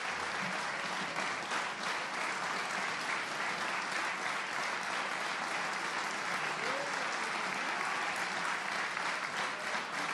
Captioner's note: applause